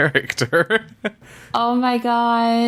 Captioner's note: laughs